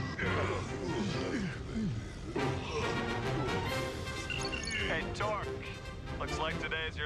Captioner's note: moaning